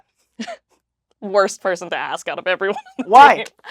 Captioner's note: laughs